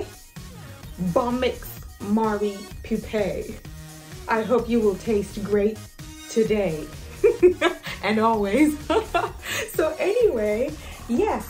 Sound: laughs

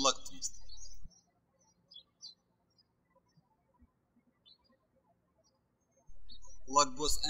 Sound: birds chirping

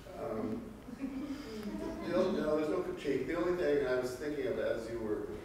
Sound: faintly speaking

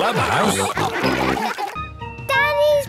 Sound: all laughing

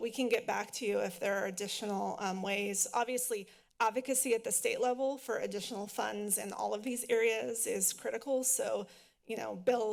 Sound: none

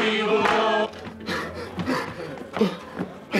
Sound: panting

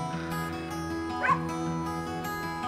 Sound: barking

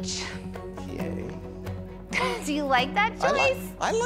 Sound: chuckles

